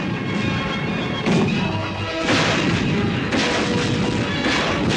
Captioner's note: bombs exploding